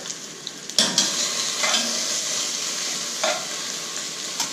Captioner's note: sizzling